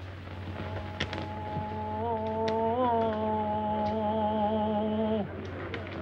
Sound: chanting in foreign language

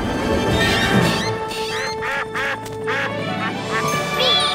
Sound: quacking

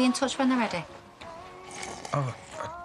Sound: Aaron slurps

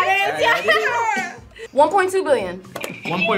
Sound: laughs

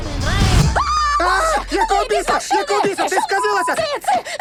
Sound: screams

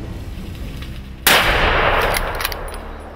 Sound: gunshot

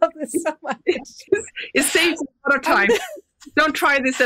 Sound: laughs

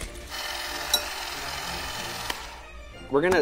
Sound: whirring

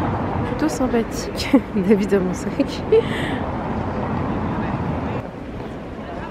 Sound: laughs

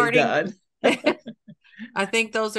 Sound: laughing

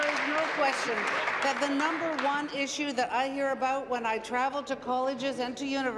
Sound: applause

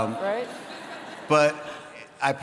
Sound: audience laughs

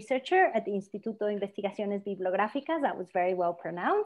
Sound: speaking spanish

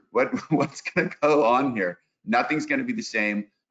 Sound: laughs

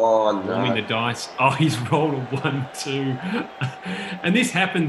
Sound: laughs

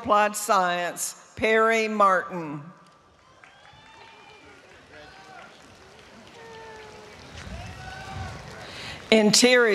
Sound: applause

